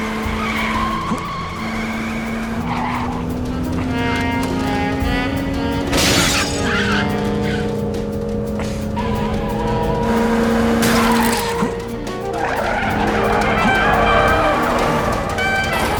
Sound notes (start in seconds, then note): 0.0 glass shatters; 0.3 tires squealing; 5.8 car crashing